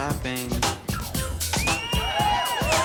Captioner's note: cheering